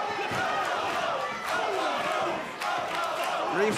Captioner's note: fans chanting